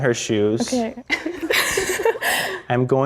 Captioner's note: girls laughing